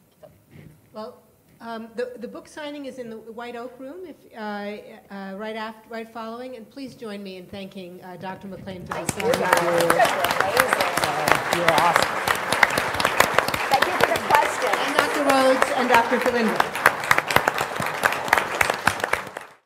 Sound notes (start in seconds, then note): 11.1 applause